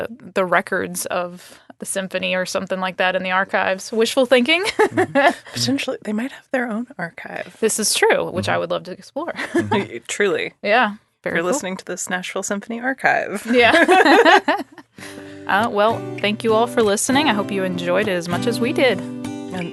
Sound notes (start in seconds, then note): 4.6 laughing; 13.4 laughing; 15.0 gentle guitar music playing